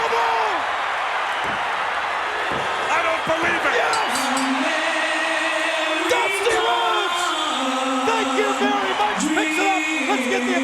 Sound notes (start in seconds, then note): 1.4 hand thudding